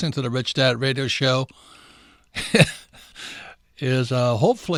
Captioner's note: laughs